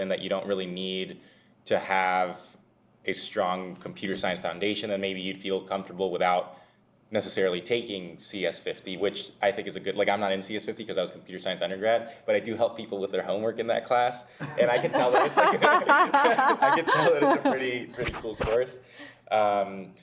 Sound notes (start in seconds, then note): 14.4 everyone laughs